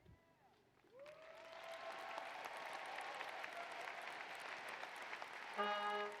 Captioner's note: applause